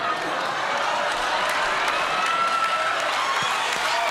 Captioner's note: cheers and applause